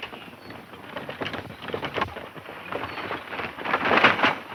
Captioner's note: wagon clattering; horses galloping